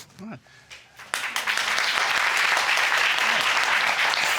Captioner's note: crowd clapping